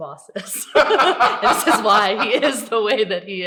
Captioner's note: all laugh